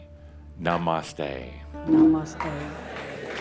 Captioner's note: audience applause